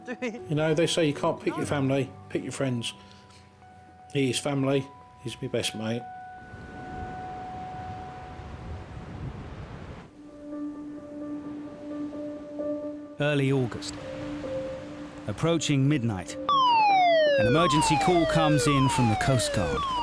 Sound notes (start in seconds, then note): 10.6 apprehensive piano music; 16.4 siren wailing